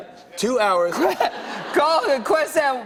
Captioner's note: laughing